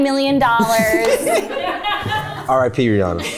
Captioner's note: everyone laughs